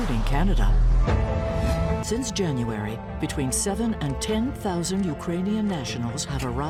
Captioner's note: air whooshing